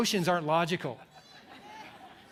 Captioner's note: laughter